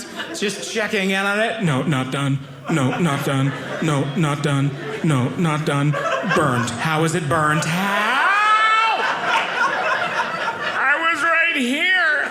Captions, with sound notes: just checking in on it. No, not done. No, not done. No, not done. No, not done. Burnt. How is it burnt? How! (audience laughing) I was right here.